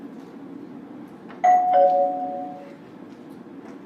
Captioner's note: bell rings